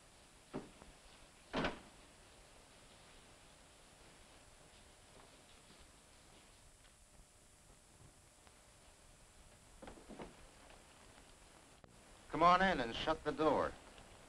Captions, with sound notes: (door latches) (rain pattering) - Come on in and shut the door.